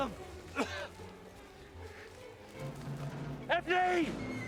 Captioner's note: Diffenwol coughs